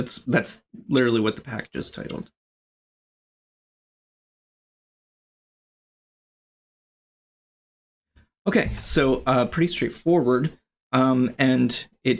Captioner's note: uh